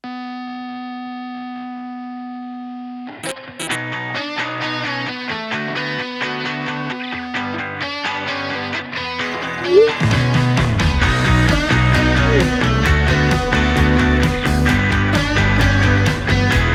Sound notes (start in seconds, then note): 0.1 upbeat rock music; 9.7 phone whooshing; 13.6 upbeat rock music